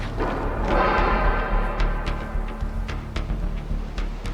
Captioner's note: metal clanging